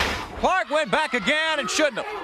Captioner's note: crowd chatter